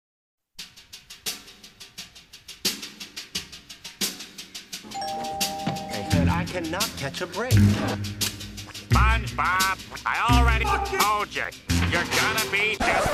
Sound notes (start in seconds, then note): 4.8 door Bell Rings